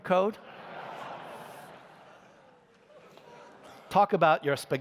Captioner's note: laughter